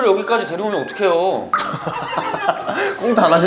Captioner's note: pfft! Ha ha ha